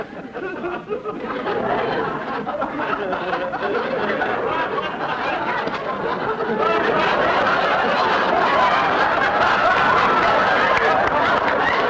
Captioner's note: audience laughter; audience laughter and applause